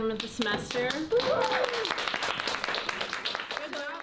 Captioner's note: clapping